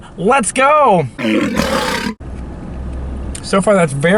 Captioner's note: lion roars